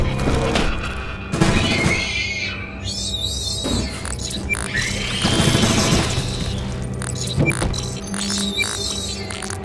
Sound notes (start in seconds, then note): 1.4 gunshots; 1.7 shrieking noises; 5.1 gunshots; 8.0 shrieking noises